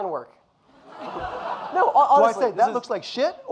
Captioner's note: audience laughing